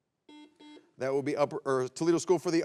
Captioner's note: buzzer beeps